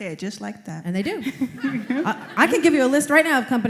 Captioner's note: laughter